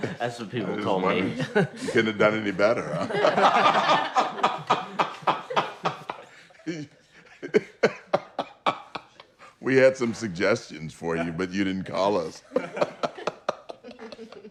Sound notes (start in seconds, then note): 3.3 all laughing; 12.2 laughing